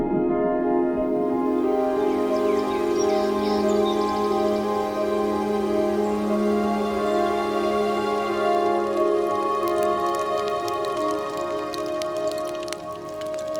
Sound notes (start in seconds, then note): 3.6 birds calling; 8.4 light music; 9.9 fire crackling